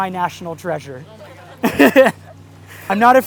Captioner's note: audience chuckles